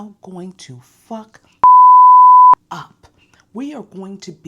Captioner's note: beep